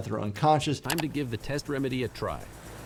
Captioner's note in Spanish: clic